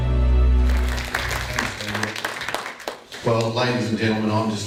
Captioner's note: audience clapping